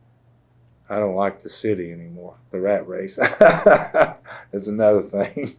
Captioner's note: laughs